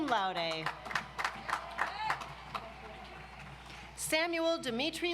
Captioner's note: audience applauds